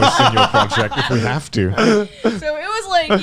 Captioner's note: laughing